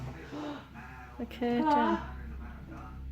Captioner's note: gasps